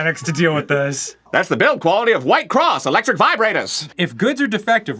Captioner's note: pan-pacific accent